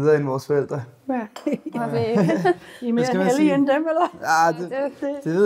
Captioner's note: laughter